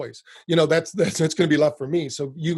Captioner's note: laughs